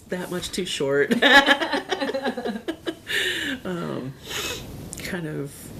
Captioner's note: both Laughing